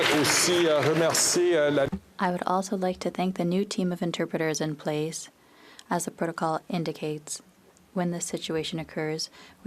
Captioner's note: applause